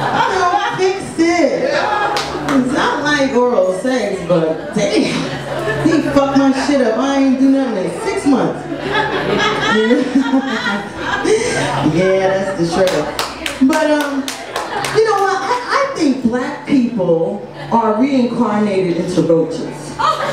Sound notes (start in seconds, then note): 0.0 audience laughs; 10.0 laughs; 19.8 audience laughs